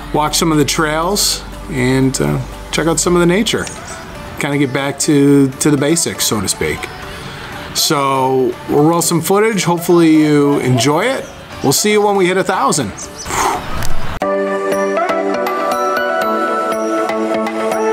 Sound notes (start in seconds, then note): 13.2 dad exhales; 14.3 fun uplifting music